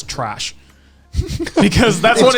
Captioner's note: all laughing